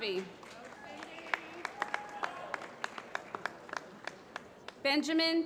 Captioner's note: applause